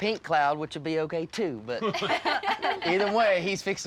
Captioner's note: laughter